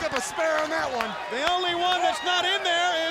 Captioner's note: crowd cheering